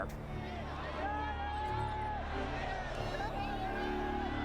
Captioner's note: cheering